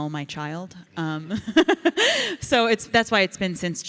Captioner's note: Ilana laughs